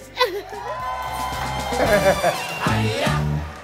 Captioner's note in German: Jubel, Lachen; Dynamische Musik